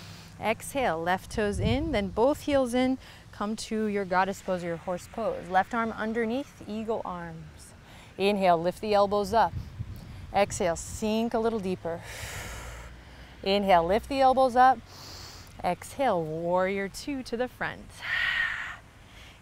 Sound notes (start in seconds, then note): 12.0 exhales; 14.9 inhales deeply; 18.0 exhales